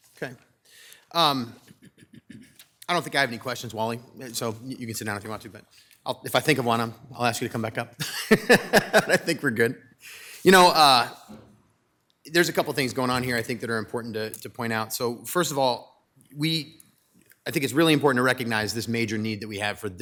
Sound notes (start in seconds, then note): 8.0 laughs